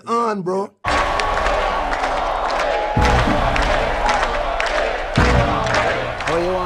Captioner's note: chanting